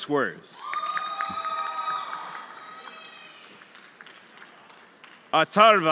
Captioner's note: everyone applauding and cheering